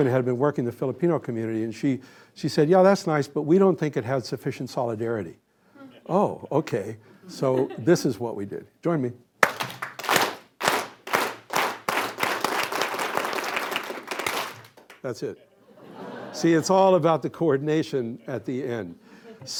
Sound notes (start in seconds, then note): 11.1 clap; 11.1 slow clapping gradually speeding up